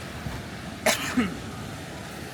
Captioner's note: coughing